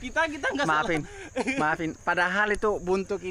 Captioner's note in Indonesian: tertawa